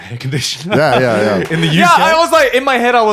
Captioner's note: laughing